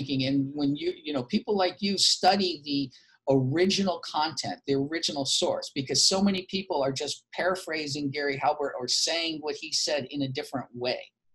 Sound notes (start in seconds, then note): none